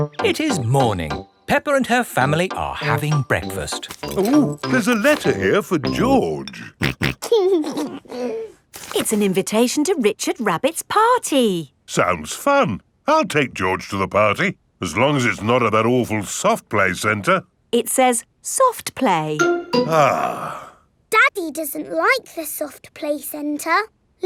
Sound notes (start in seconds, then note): 6.5 snorting and giggling; 19.9 sighs